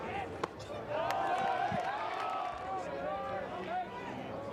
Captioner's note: crowd cheers